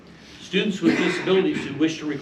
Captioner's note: male audience member coughs